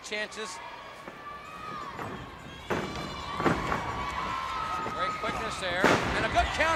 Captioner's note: crowd cheering